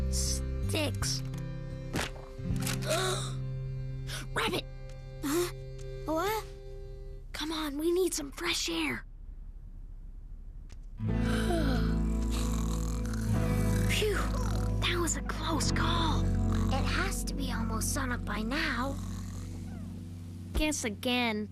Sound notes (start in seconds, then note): 3.7 gasp; 11.5 light snoring